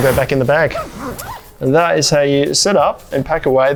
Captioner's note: zipper whooshing